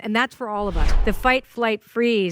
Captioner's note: air whooshing